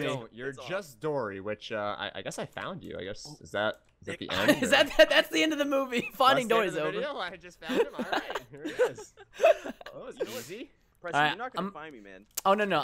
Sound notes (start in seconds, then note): 10.4 laughter